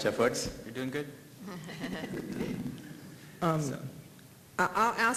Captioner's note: laughter